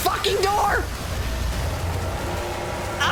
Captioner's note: splashing gets louder; Shadow roars